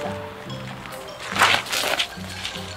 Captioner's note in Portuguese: todos ficam rindo